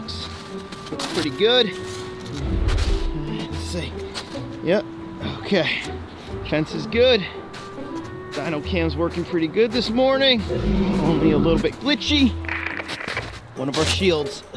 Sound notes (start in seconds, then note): 1.8 clothes rustle; 10.5 animal calls in distance; 12.4 static crunching